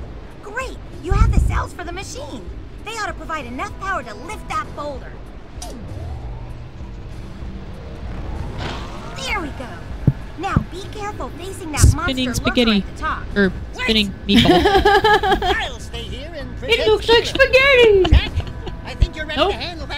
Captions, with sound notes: Spinning spaghetti. Er, spinning meatball. (laughter) (silly voice) It looks like spaghetti! Nope!